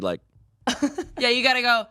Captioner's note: laughs